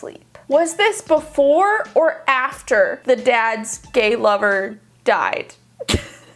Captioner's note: laughs